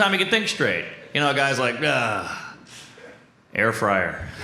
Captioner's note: groans